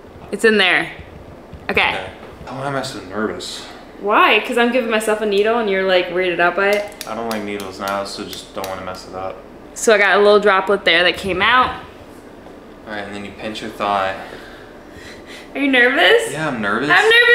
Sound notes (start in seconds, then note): 6.7 syringe tapping